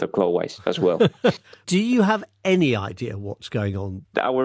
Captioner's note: laughs